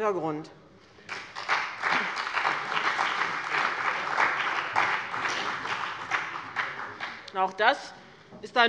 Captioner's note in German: Beifall bei dem BÜNDNIS 90/DIE GRÜNEN und der CDU